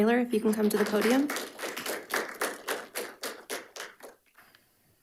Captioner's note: audience applauds